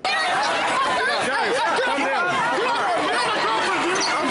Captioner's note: crowd noise